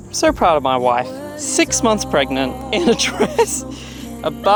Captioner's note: laughs